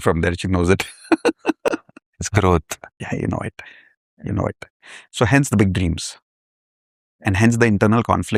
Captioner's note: laughter